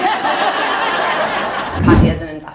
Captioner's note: audience laughs